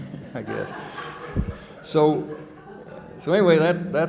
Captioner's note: audience laughing